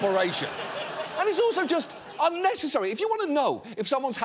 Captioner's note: audience laughing